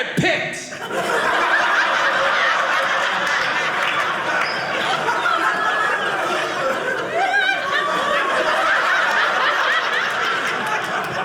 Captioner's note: audience laughing